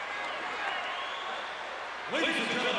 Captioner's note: crowd cheering